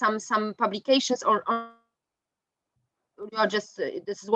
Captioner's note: mic distortion